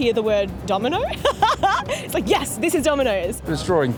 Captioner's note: laughs